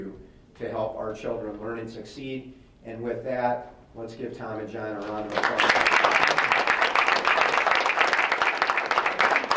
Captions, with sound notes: to help our children learn and succeed. With that, let's give Tom and John a round of applause. (members applauding)